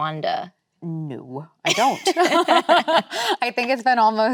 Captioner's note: both laughing